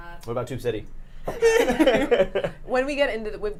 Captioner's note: laughing